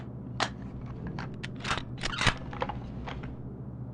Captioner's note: click; cocking gun